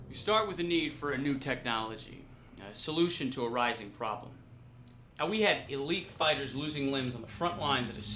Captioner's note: none